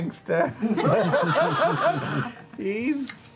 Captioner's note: laughter